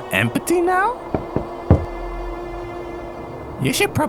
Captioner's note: knocking